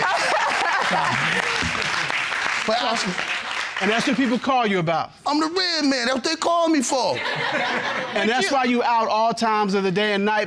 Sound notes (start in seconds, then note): 0.0 laughing; 7.1 laughter